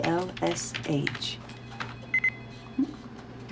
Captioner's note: beep